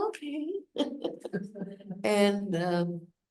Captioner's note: laughs